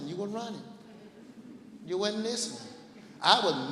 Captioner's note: laughing